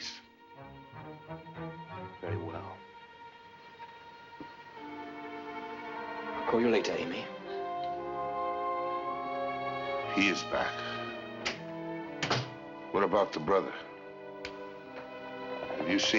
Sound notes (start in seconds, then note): 12.1 door Opens, Closes